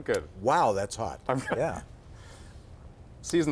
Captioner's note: laughter